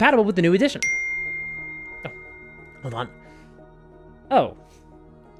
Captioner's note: phone dings